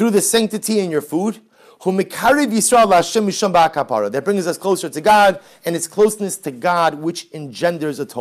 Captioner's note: Hebrew